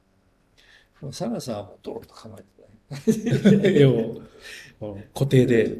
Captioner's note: laughs